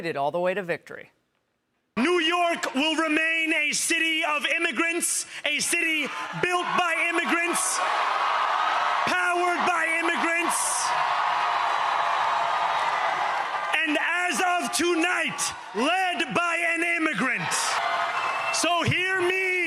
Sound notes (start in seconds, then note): 13.8 cheers